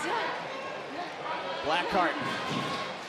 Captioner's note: crowd chatter